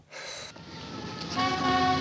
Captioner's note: man sighs